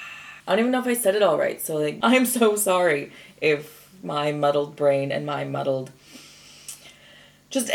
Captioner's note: inhales, clicks tongue